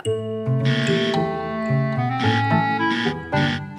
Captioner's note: buzzer blaring